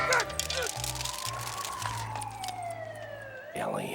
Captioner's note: distant police siren wailing; man grunting